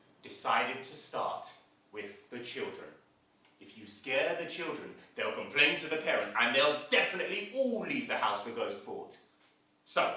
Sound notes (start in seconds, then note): none